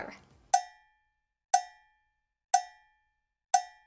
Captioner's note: clock ticking